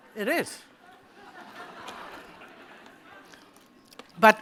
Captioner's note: laughter